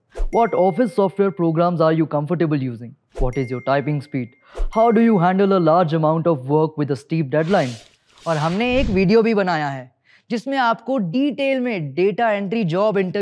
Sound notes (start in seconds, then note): 8.1 speaking hindi